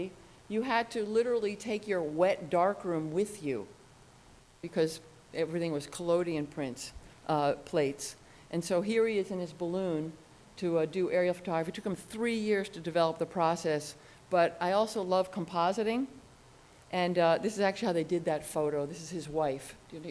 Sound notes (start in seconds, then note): none